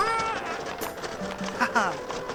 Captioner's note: צווחות